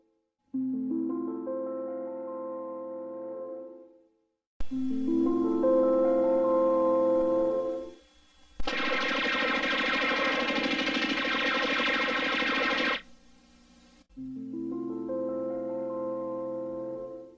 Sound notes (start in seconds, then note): 8.6 space lasers shooting; 14.7 70s piano music resuming